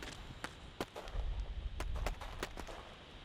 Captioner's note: gunfire